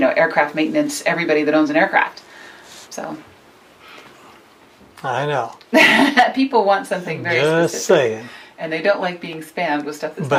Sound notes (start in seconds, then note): 5.7 chuckles